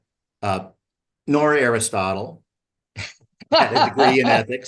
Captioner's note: laughter